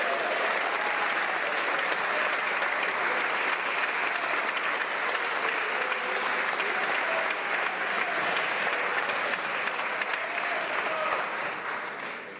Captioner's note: some Applause